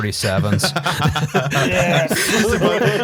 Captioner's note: laughter